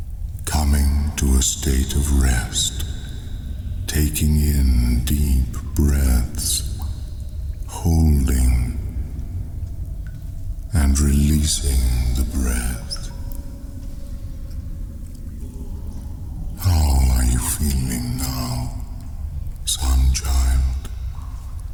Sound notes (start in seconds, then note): 0.0 cave noises; 13.7 cave noises